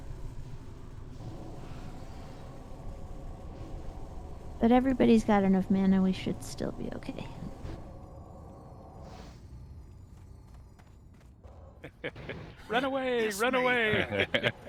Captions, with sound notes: But everybody's got enough mana, we should still be okay. (laughing) Run away, run away.